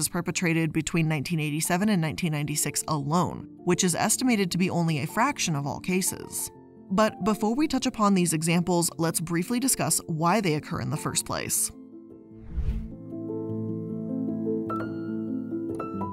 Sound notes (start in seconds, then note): 12.4 air whooshing; 13.4 mellow music